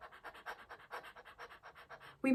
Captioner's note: breaths quickly and shallowly